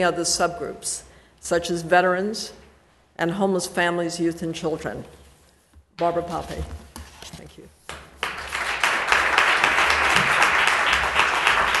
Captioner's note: applause